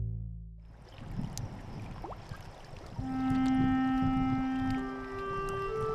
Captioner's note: calming music; flowing water